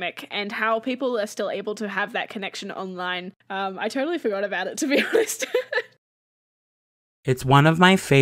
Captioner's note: laughs